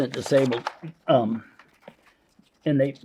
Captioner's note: paper crinkling